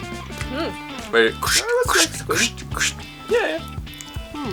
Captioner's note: making crunching sounds